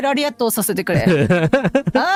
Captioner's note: laughter